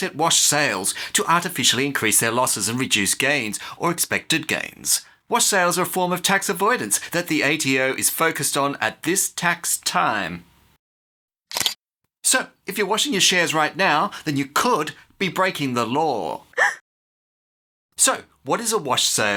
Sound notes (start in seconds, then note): 11.5 camera click; 16.6 woman gasps